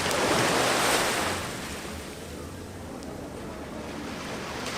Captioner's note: wind rustling